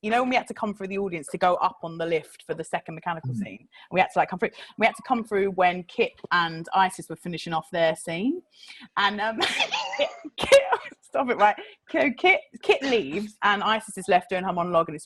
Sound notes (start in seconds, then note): 9.6 laughs